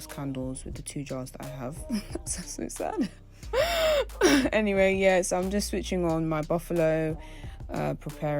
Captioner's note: laughs